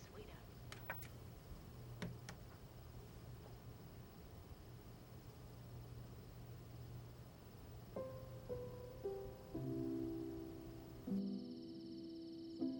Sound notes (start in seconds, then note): 0.6 TV clicks off; 7.8 soft piano music playing